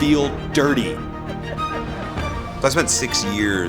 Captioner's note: audience laughing